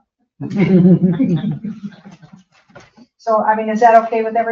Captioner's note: people chuckle